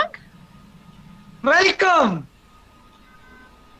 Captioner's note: German